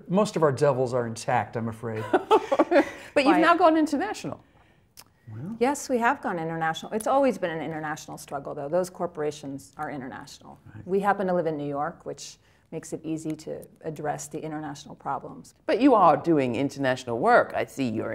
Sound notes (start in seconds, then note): 1.9 laughter